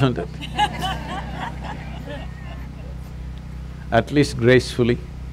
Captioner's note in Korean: 웃음